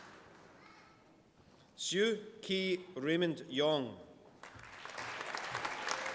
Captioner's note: applause